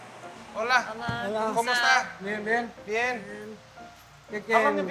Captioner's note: foreign language